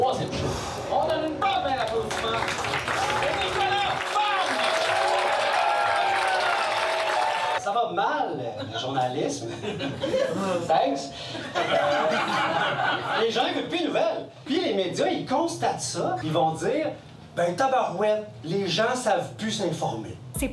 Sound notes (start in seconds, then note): 4.4 shouts and applause; 12.0 laughs